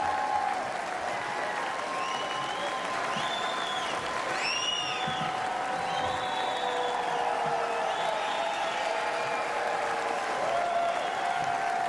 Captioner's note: cheers and applause